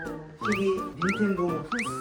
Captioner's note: tv